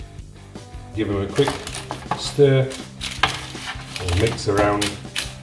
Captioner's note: parchment paper crinkles